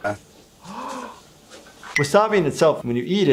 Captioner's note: gasps